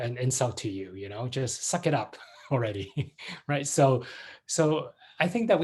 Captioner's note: laughs